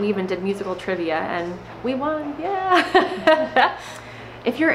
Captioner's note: laughs